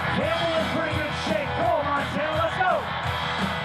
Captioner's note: announcer speaking